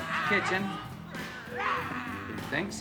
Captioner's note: growls